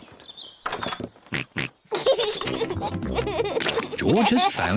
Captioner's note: snorts and giggles